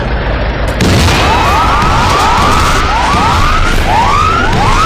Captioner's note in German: Lautes Krachen, laute Alarmgeräusche